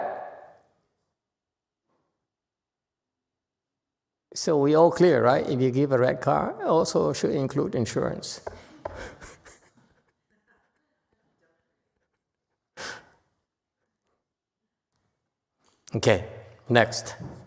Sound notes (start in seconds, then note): 8.6 chuckles